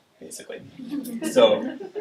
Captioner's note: audience laughing